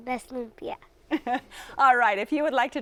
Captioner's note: laughs